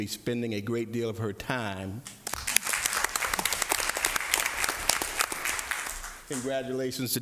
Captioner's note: applause